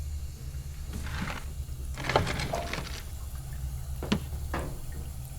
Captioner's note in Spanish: agua corriendo